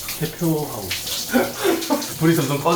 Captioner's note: chuckles